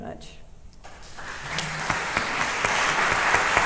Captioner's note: applause